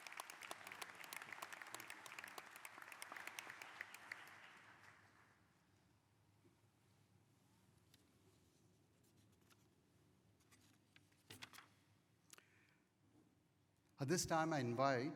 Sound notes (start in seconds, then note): 2.8 applause